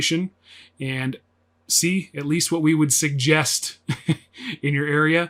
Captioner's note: laughs